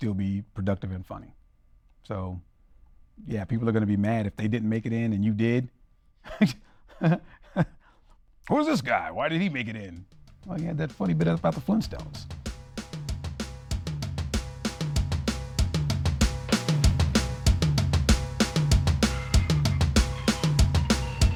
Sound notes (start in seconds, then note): 6.4 talks in a lower voice; 13.3 rock music plays